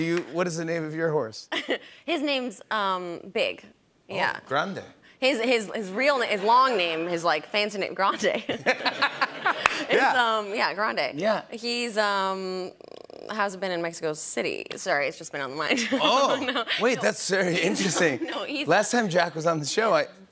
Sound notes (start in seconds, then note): 8.2 laughter